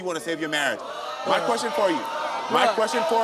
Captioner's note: audience groans